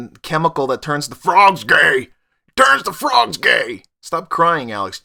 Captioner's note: bad Alex Jones Impression